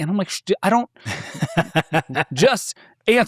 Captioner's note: laughing